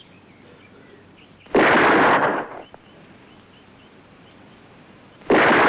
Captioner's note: gunshot